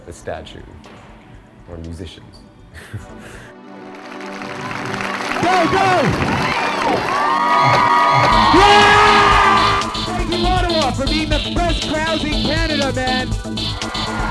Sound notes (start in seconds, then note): 2.7 chuckles; 6.5 audience cheering and applauding